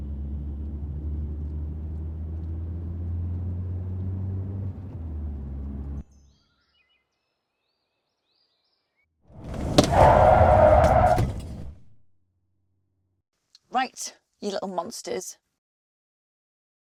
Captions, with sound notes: (engine rumbling) (tyres screeching) Right, you little monsters.